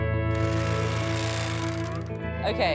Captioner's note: country music; machine humming